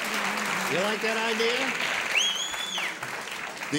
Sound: applause; whistle

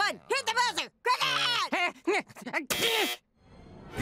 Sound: buzzer

